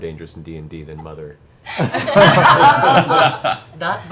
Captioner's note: laughter